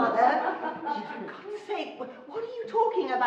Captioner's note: laughing